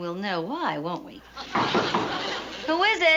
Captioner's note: knocking